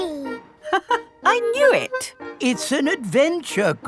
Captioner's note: laughs